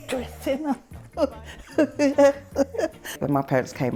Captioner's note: laughs